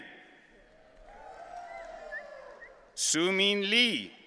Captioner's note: audience cheering